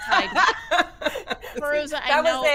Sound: Fairuza laughing

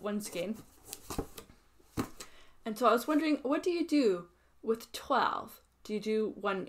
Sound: box shuffling sounds

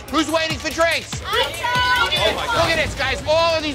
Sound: patrons affirming

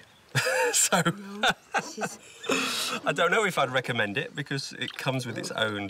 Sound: chuckling

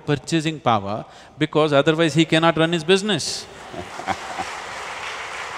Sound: applause

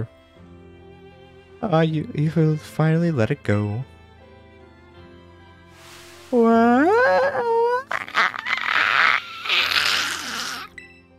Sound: Carmine crying?

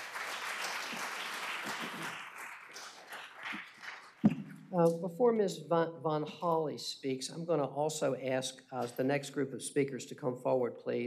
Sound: applause

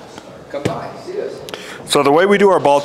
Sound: club thuds

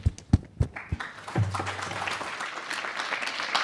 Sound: applause

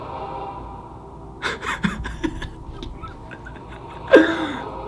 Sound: dramatic music; chuckles

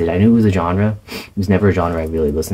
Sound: sniff

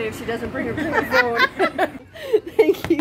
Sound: laughter

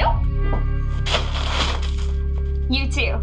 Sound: clattering

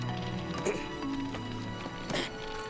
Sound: grunts

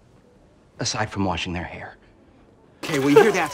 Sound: laughs

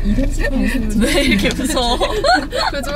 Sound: started laughing all of a sudden

